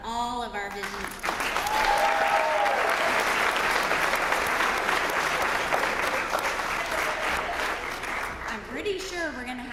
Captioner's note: applause